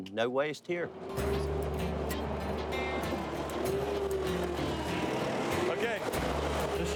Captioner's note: machine engine roaring; optimistic music